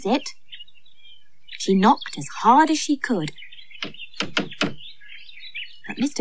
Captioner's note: sound Of Knocking